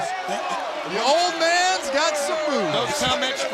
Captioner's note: crowd chatter